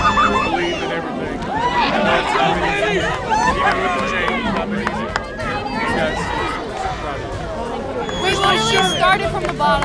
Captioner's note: cheering